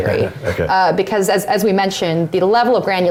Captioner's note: laugh